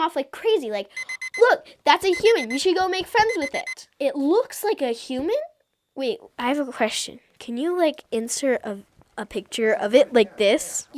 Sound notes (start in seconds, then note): 3.2 alarm beeps